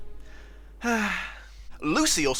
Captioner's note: sigh